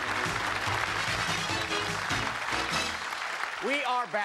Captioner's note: applause